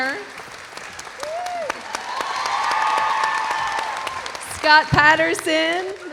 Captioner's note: audience applauding; audience cheering